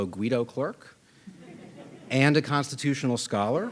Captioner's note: audience laughing